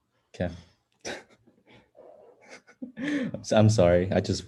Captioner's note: laughs